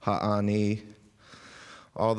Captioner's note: speaking indigenous language